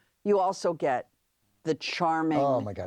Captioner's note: sighs